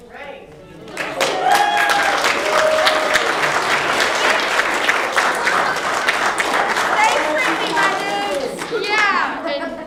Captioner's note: applause